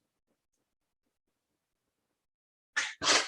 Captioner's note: clap